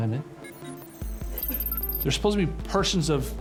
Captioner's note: computer calculating sound effect